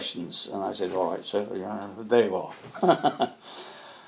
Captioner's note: laughs